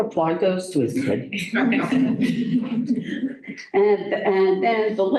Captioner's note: laughter